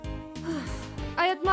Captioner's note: sigh